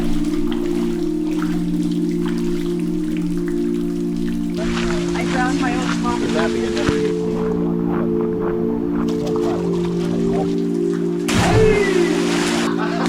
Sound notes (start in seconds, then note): 0.2 water dripping, footsteps in water; 4.6 chatter; 7.4 footsteps on dirt